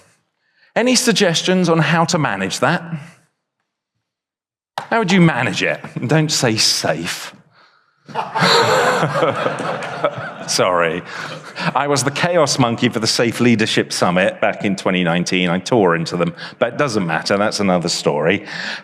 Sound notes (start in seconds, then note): 8.1 chuckles; 8.1 audience laughs